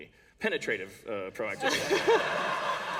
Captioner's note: laughter